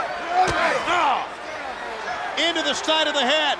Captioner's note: fist pounds